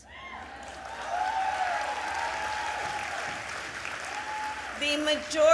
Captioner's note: applause